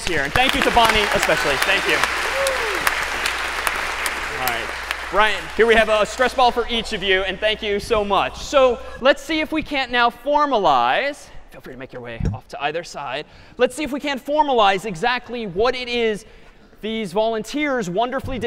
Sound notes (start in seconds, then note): 2.0 applause